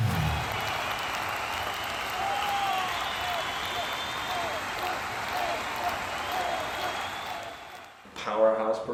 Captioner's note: music sting; crowd Cheering